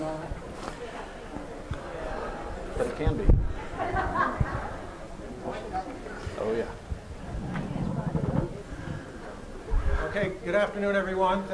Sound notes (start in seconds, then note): 4.1 woman laughing